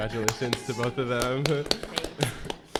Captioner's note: clapping